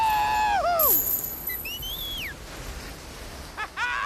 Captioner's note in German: Pfeifen